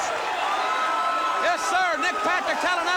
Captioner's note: crowd cheering